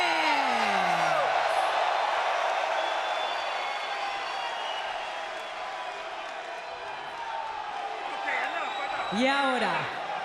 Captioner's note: applause